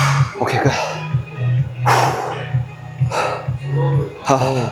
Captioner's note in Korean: 한숨